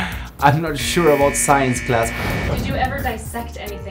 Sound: wrong answer buzzer buzzes

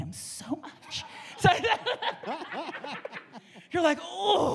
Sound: audience members and panel laugh

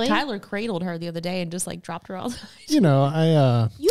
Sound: laughs

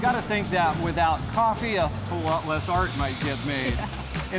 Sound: laughs

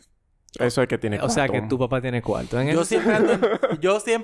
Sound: laughs

